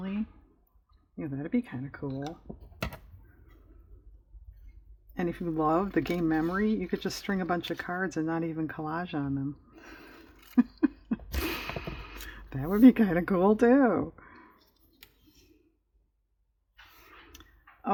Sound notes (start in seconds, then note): 10.4 laughs